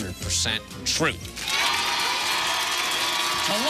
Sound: cheers and applause

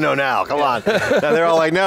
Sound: laughing; laughs

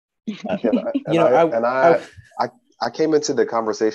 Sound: laughing

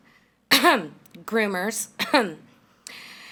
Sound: coughs

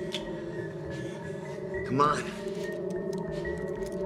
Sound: none

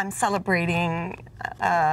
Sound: none

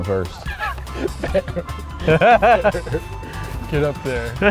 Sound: laugh

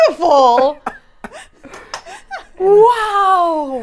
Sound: everyone laughs

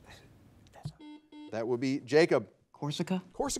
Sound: buzzer beeping

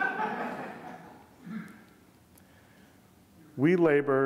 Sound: audience laughing

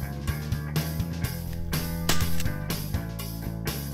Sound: gun fire

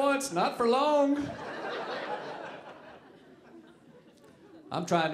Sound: audience laughing

